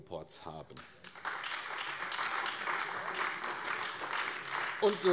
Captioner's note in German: Beifall AfD